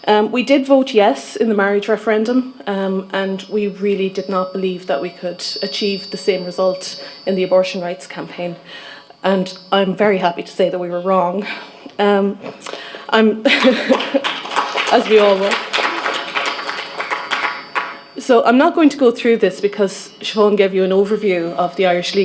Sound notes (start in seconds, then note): 13.5 applause